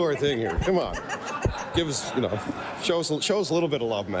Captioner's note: laughter